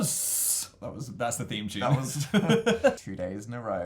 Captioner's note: sounding like an old man; laughs; chuckles